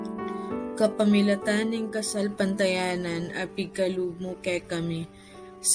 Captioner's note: narrator speaking in Kapampangan